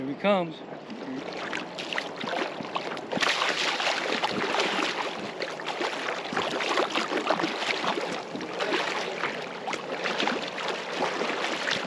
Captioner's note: fish splashing